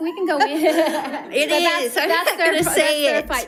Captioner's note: audience laughs